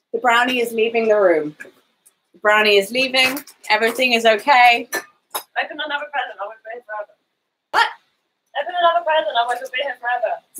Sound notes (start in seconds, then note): 5.6 speaking quietly